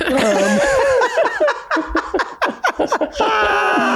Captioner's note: all laugh